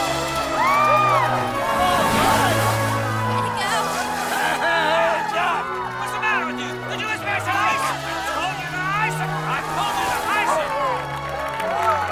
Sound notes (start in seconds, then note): 0.7 all cheering